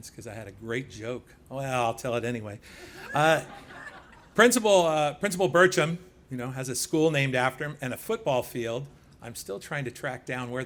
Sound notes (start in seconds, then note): 3.0 laughing